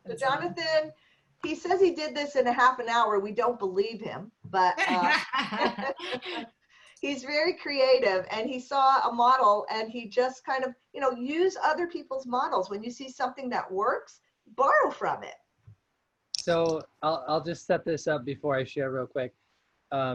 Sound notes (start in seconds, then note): 4.8 laughter